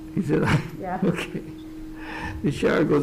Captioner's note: chuckles